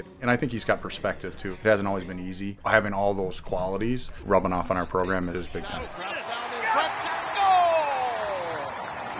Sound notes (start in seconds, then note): 5.9 crowd cheers